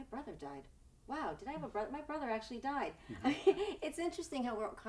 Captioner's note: laughs